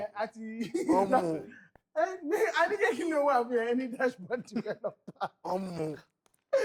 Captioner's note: laughs